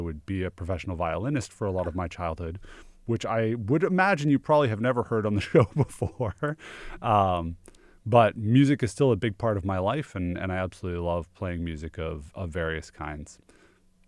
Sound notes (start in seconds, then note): 5.5 laughs